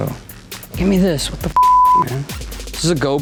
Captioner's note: beep